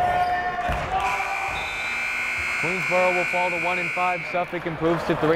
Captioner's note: buzzer blaring